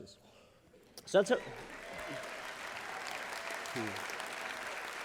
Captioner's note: applause